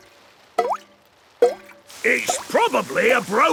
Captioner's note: water dripping